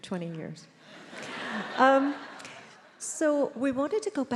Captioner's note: attendees laughs